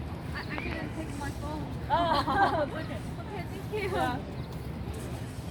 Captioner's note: general laughter